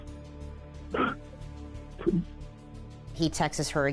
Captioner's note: cries